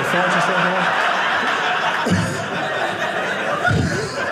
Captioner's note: audience laughing